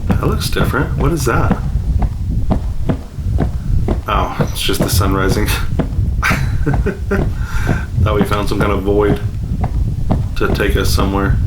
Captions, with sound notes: That looks different. What is that? Oh, it's just the sun rising. [laughs] Thought we found some kind of void to take us somewhere.